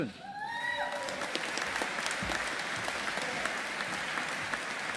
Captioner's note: audience applauding